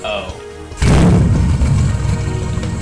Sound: mustang revving

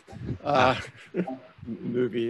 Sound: laughs

